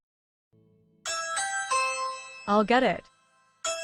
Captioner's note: Ring doorbell rings